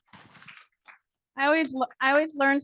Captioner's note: audience applauding